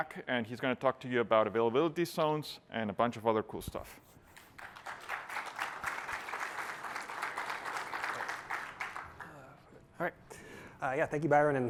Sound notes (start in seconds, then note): 8.1 applause